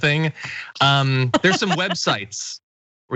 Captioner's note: laugh